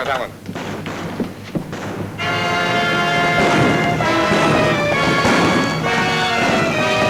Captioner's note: guns bang; exciting music